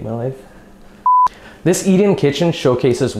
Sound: beep

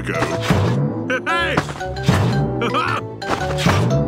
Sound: laughs

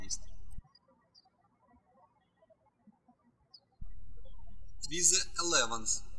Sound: birds chirping

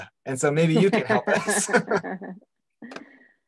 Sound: laughs

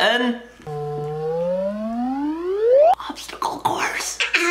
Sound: toy whooping

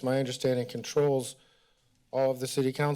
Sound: none

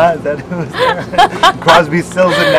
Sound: laughs

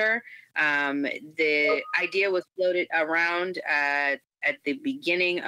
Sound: computer notification rings

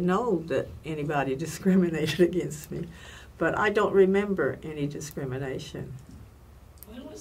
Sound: laughs

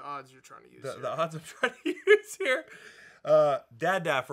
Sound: laughing

